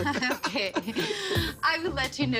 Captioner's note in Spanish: Risas